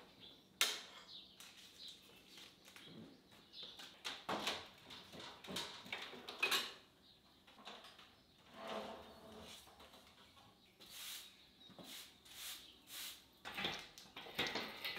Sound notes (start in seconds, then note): 3.7 objects clattering; 11.8 broom rasping